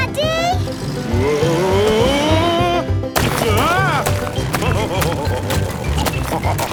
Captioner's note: laughing